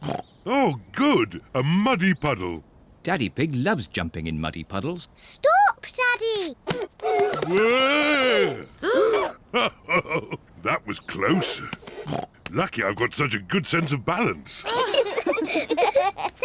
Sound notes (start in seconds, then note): 0.3 snorts; 8.6 all gasp; 9.5 chuckles; 11.3 snorts; 14.6 all giggle